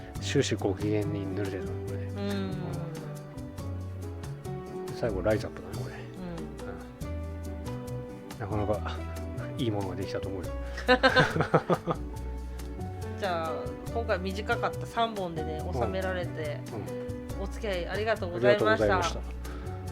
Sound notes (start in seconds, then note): 10.8 laughs